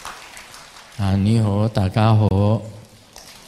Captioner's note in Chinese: 廣東話